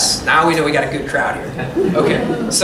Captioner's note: laughter